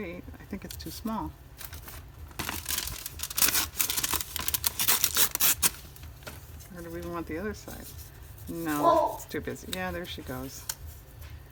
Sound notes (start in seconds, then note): 8.6 dog barks